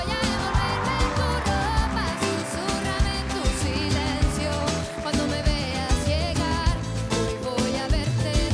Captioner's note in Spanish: exclamaciones y aplausos